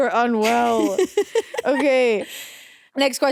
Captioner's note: Vic laughing